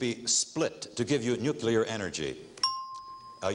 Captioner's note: ringing bell